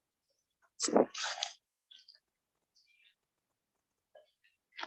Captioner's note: mic rustling